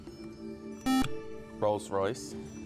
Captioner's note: buzzer